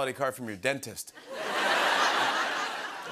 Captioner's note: laughter